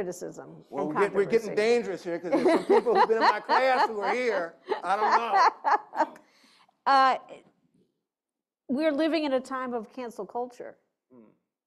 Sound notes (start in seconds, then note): 2.3 laughter